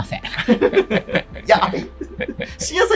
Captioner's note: laughing